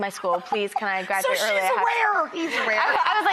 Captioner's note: laughs